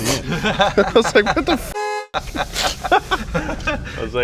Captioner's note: laughs; honk; laughs